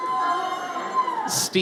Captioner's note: audience cheers